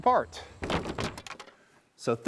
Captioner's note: wood falling